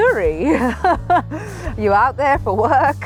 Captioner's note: laughter